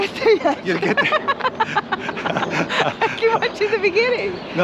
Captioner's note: laughing